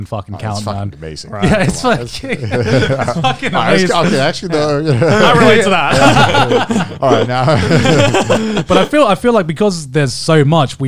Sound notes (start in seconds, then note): 1.4 all laughing